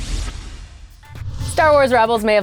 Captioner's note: zap; whoosh